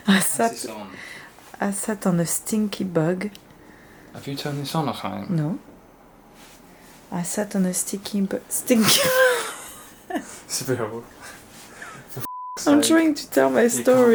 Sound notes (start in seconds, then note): 9.1 laughing